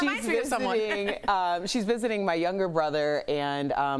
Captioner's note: laughter